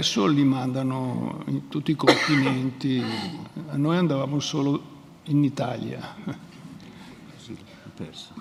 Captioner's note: speaks in Italian, gestures to , audience laughs